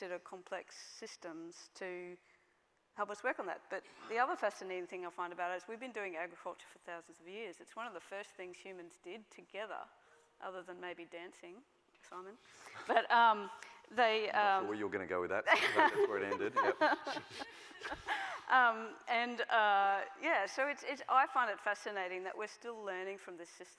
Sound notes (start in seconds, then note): 15.5 laughs